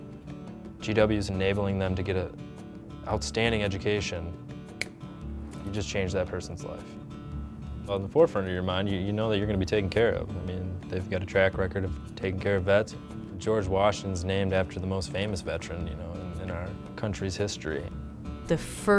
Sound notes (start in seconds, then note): 4.7 snaps fingers